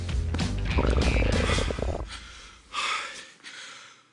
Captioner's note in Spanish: Ruido de sus tripas